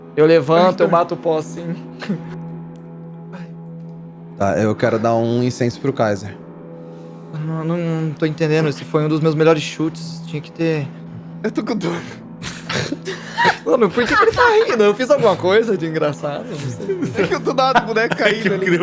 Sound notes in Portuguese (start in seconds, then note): 12.4 risadas; 12.4 Todos riem